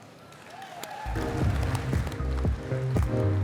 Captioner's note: cheering, applause